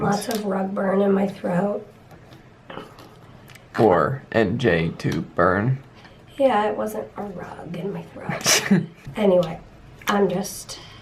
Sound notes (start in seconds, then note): 8.4 laughs